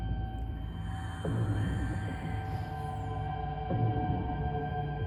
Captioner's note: creepy whispering